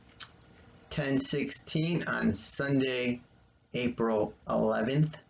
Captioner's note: click